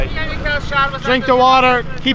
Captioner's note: man speaking Farsi